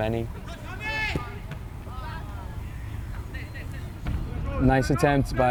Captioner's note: players shouting